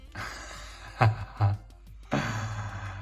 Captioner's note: chuckling